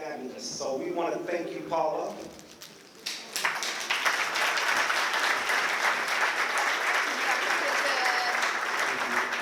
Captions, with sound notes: So we want to thank you, Paula. [APPLAUSE]